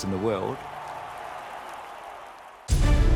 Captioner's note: crowd cheering; thrilling music